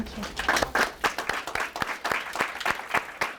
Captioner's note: applause